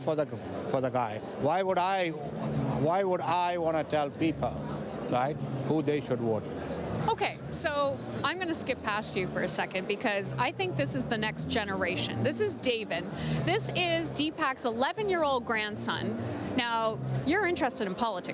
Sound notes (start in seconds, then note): none